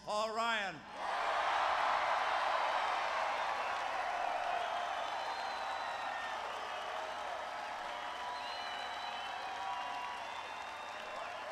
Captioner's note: applause